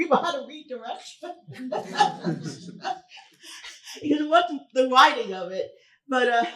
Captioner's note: chuckles